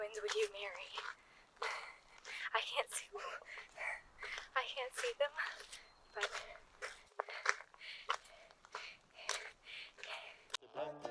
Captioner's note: heavy breathing